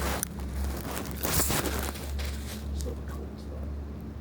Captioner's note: camera rustling